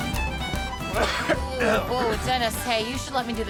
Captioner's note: coughing